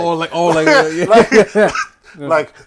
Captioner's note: laughter